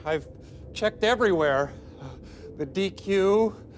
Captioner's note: whimpers